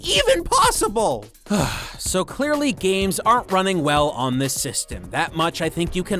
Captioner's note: sigh